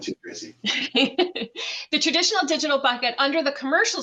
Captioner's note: laughs